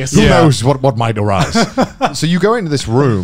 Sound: laughing

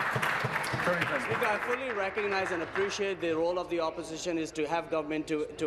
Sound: applause

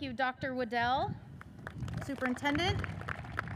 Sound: audience cheers and applauds

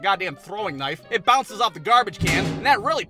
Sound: thud!

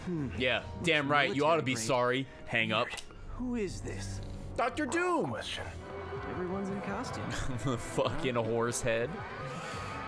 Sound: laughs

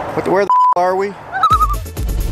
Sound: loon call

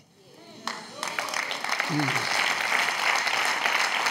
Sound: audience claps

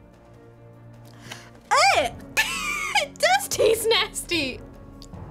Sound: snickers

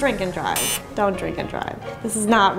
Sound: beep

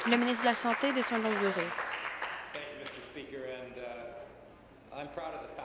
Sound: applause

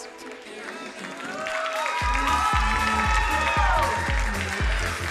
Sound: crowd cheering and applauding; upbeat music

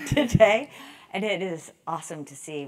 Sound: laugh

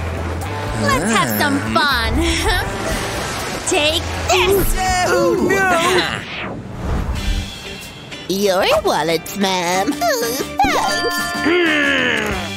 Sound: making happy sounds

